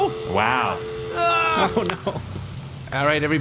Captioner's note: shouting